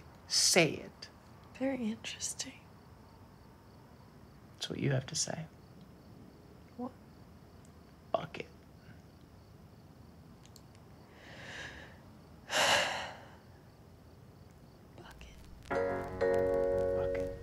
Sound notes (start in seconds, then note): 11.1 Sam breathes deeply; 15.7 upbeat music